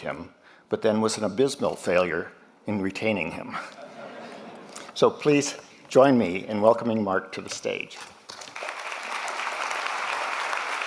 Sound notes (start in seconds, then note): 3.6 laughter; 8.2 applause